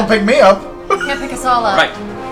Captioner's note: laughs